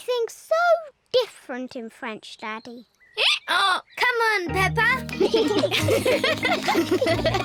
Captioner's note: brays; both giggle